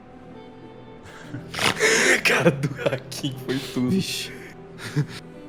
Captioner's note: laughter